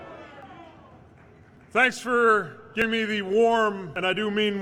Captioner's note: crowd